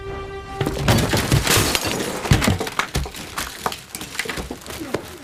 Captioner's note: glass shattering